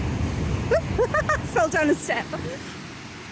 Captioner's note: laughing